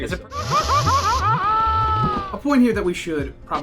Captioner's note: Mario screaming in pain